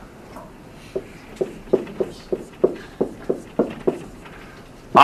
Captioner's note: marker thudding